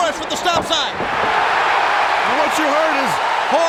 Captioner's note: crowd cheers